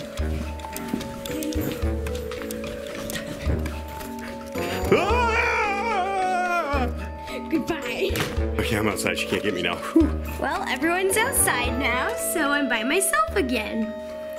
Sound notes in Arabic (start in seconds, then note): 0.1 موسيقى مضحكة; 4.9 الصراخ; 14.2 موسيقى مضحكة